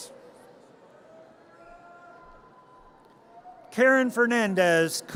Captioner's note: audience cheers